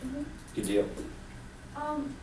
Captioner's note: voiceover